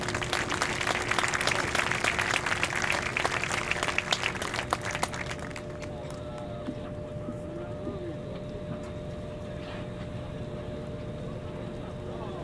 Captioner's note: applause